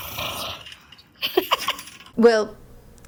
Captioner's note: giggling